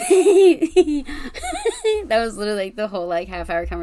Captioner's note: laughs